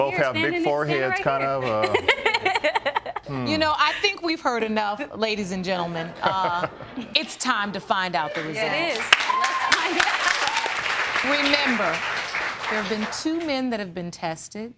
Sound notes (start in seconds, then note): 1.7 laughs; 8.3 audience applauding